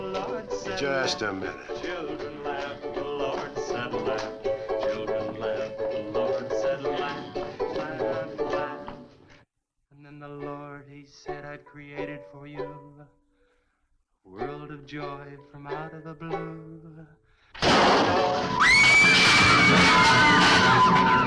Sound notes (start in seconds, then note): 17.6 crash booming; 18.5 girls screaming; 21.0 suspenseful music